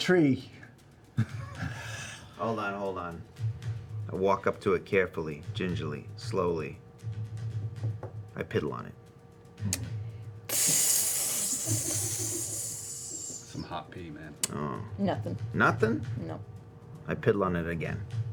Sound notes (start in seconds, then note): 10.4 sizzling